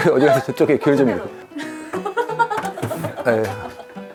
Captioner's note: rummaging